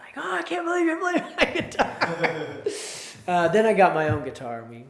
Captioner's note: both laugh